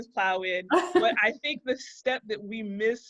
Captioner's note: laughter